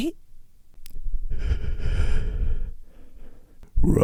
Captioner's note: heavy breathing